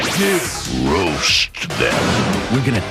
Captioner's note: boom